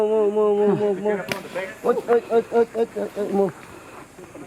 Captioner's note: another loud smack